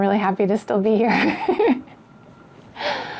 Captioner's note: laughs